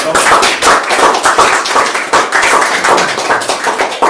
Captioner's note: applause